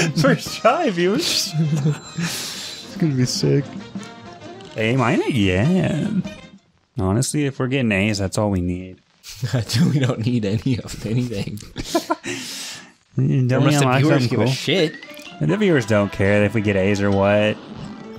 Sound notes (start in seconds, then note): 1.5 both giggling; 10.6 laughs